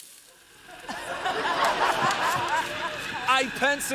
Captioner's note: laughter